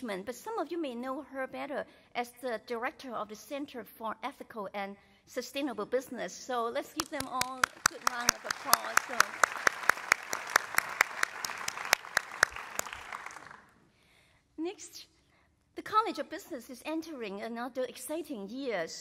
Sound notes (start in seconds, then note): 10.7 applause